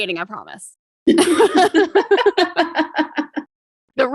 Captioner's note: both laugh